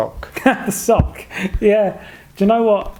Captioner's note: laughing